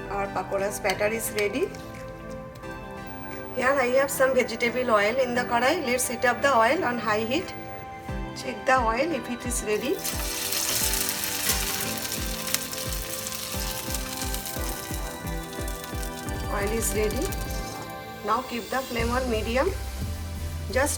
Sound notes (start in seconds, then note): 4.8 speaking foreign language; 10.1 batter frying